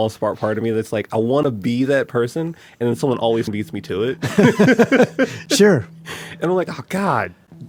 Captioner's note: both laugh